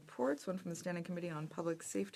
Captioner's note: speaking French